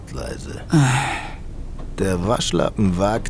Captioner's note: sigh